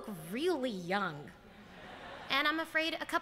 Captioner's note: laughter